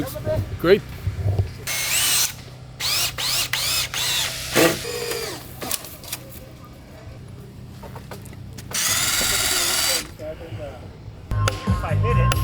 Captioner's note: construction noise